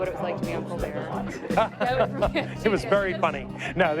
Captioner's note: laughter